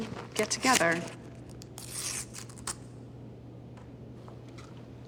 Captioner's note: paper tearing